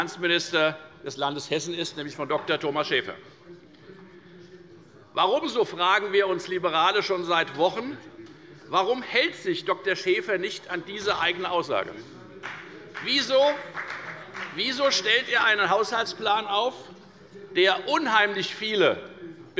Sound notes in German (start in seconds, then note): 12.4 Beifall bei der FDP